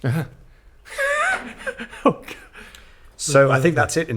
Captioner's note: laughs